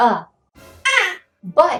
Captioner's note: high-pitched voice